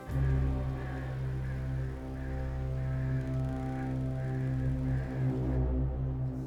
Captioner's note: foreboding music; crows cawing